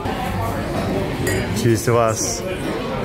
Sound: glasses clink

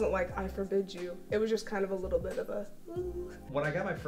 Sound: winces

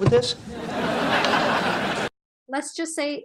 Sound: audience laughing

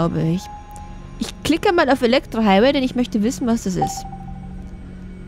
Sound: clicks

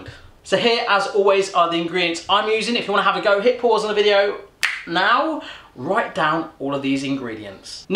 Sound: clicks fingers

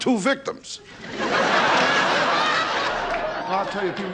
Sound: audience laughing

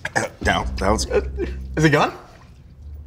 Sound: stammering

